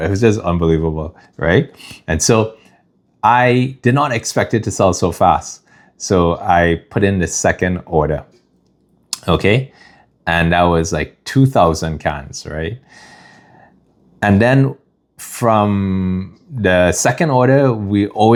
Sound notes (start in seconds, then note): 12.9 gasps